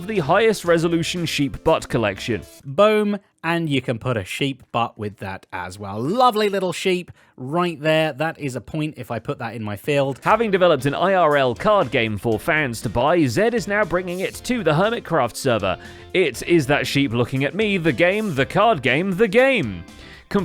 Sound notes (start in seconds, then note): none